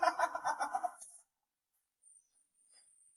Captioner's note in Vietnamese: tiếng cười